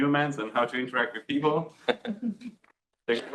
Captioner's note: laughs